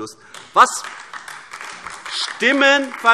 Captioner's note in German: Beifall AfD